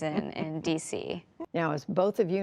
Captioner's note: laughter